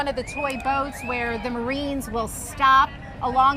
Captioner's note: horns